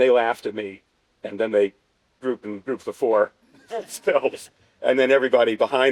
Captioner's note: laughter